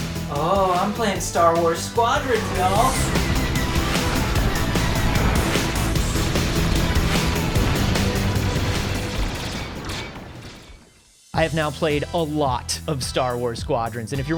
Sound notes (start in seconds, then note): 3.4 energetic music; 4.4 lasers blasting